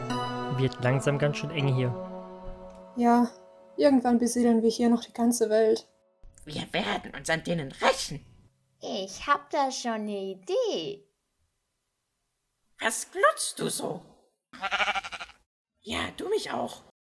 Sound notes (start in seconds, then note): 14.5 baa